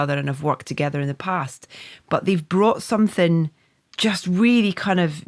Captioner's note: none